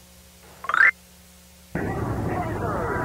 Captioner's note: game chimes